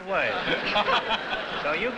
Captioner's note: laughter